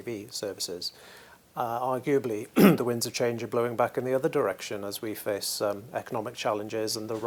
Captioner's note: cough